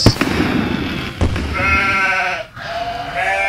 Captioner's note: goats